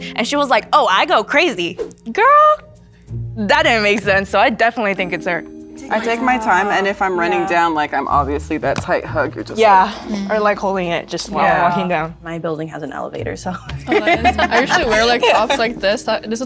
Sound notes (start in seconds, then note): 13.8 all giggling